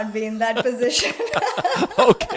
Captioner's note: laugh